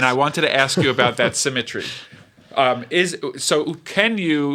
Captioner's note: laughter